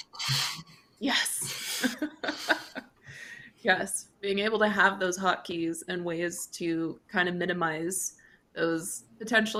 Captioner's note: chuckles